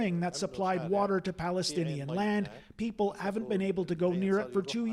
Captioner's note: speaking alternate language